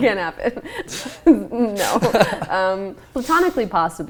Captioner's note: laughing